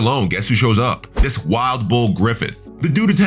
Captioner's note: air whooshing